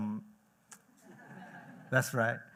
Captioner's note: laughter